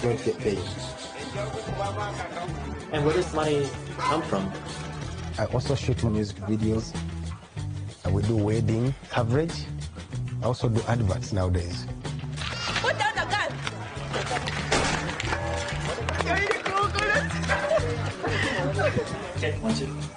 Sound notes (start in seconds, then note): 14.7 gunshot fires; 17.1 actresses laughing